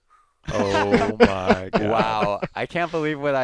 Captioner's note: laughter